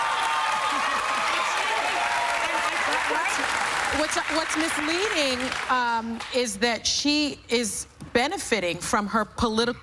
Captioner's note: cheers and applause